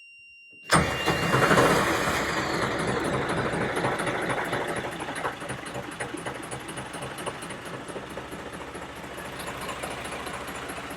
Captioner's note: sound of starter motor turning and engine firing up